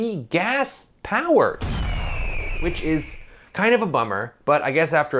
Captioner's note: bird screech, explosion